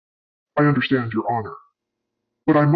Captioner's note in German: verzerrt